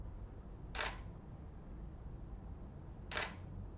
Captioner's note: camera clicking